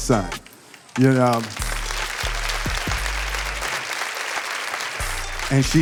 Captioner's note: audience applauding